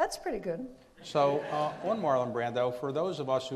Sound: audience laughs

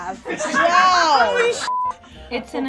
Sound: beep

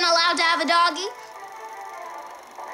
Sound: film reel sound

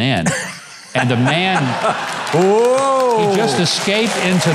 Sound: audience laughing

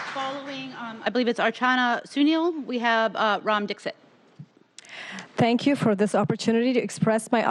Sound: applause

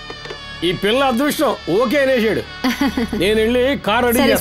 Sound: laughs

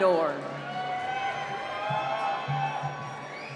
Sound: cheering

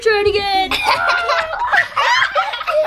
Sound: laughing; laughing And screaming

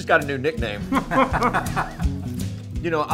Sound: all laugh

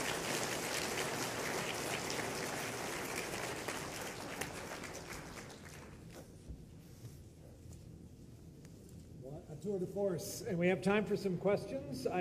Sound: applause

